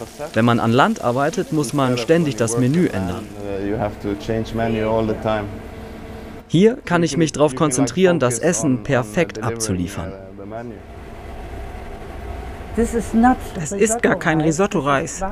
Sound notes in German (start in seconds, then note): 11.0 Rauschen; 12.7 englisch